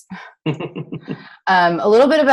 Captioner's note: laughs